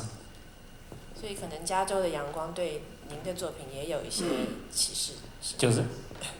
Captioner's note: Mandarin; Mandarin